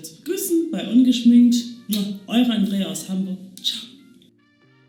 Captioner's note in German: Schmatzer